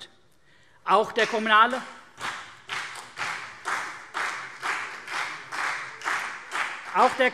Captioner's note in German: Beifall CDU und BÜNDNIS 90/DIE GRÜNEN